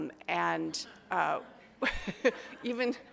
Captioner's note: audience laughs